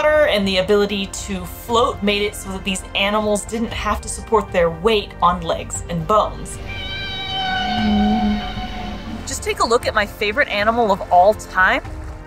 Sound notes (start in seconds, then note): 6.4 whale vocalizations; 6.5 background music